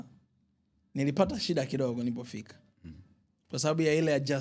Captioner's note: clearing throat